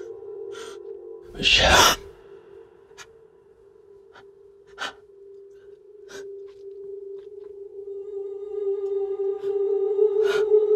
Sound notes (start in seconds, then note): 4.0 deep upset breathing